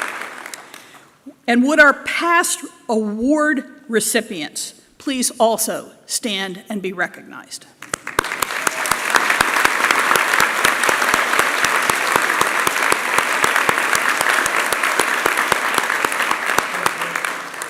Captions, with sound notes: And would our past award recipients please also stand and be recognized? (Applause)